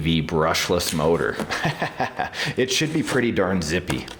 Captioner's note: laughing